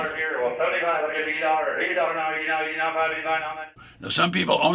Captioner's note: auctioneer chants